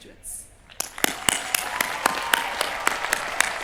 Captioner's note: cheering